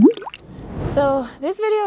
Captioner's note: water babbling